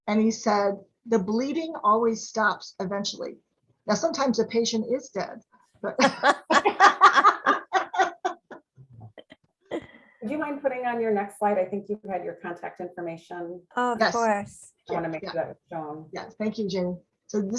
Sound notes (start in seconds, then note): 5.9 laughing